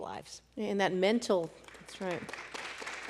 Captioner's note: applause